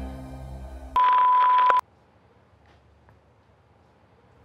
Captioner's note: loud beep